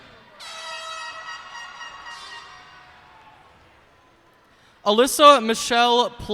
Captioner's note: cheers and applause